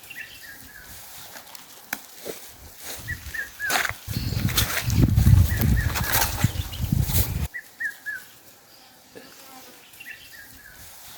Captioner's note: birds singing